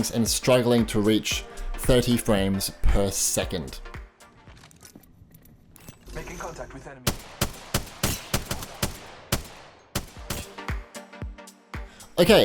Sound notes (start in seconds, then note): 7.0 gun firing; 10.2 upbeat music